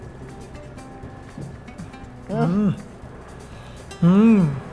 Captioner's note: moans in delight